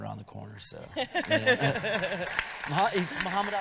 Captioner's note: audience applauding